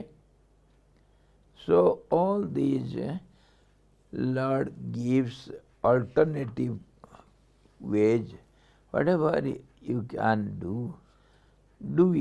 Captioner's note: sanskrit